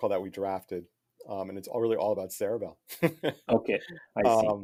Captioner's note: laughing